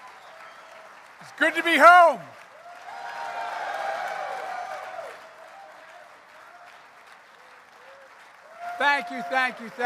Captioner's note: applause; applause